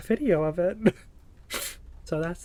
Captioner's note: laughs